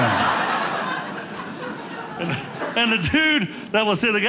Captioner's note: audience laughing